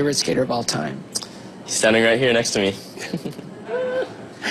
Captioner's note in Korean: 웃음